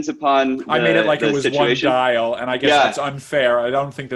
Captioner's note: murmurs